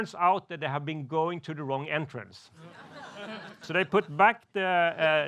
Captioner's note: laughs